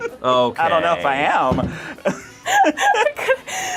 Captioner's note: laughs